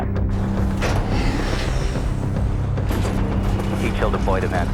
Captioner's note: wind whooshing